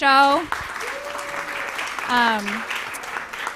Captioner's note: applause, cheering